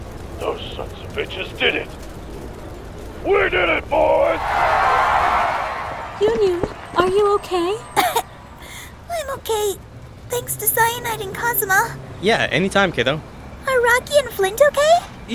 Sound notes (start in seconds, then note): 7.8 cough